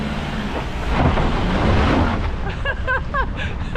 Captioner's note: wheelspin; nervous laughter